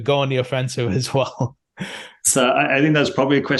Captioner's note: laughs